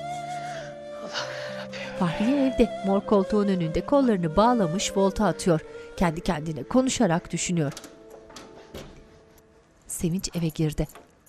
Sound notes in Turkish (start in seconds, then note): 7.6 Kapı açılma sesi